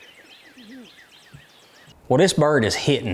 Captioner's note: birds tweeting